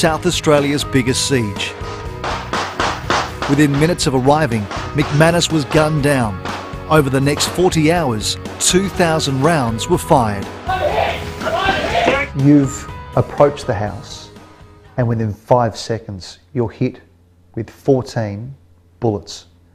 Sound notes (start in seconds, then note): 2.2 gun fire in the background